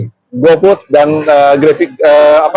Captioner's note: laugh